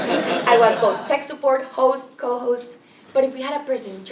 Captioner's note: laugh